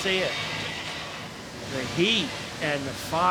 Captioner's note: flames blowing